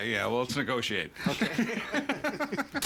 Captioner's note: laughing